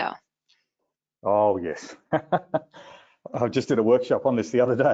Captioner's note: laughing